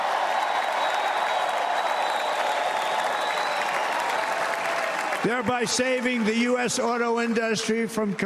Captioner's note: cheers and applause